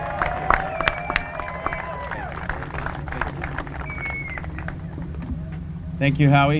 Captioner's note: applause and cheering